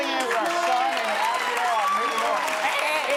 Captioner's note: audience cheers